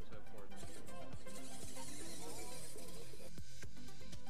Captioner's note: engine whirring